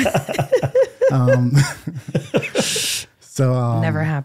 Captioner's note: laughing